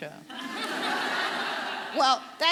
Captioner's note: audience laughing